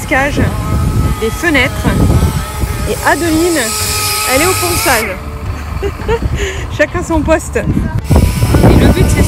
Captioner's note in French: rire